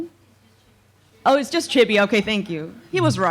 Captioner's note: japanese